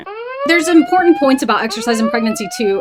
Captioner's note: siren blaring